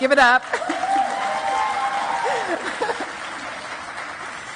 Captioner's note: audience cheers